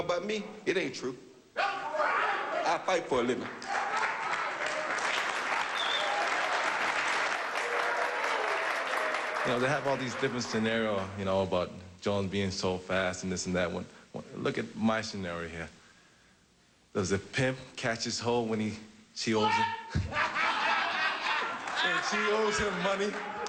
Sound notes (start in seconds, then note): 1.6 shouts from audience; 3.5 cheering and applause